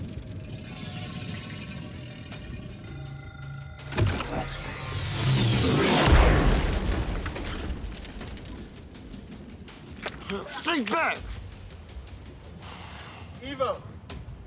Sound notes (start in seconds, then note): 2.9 electronic beeping; 3.7 metal clanking; 5.5 explosion roaring; 10.0 spits